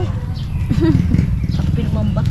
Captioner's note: chuckles